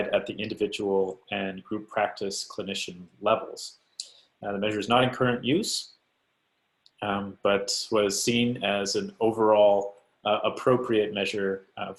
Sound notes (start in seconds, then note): none